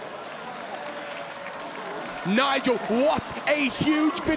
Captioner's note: applause